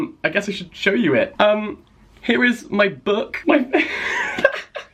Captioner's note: laughter